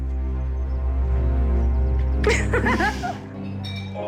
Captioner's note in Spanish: Risas